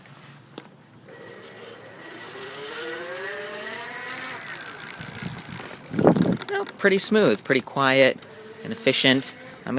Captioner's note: motor whirring